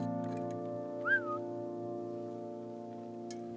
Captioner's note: whistling on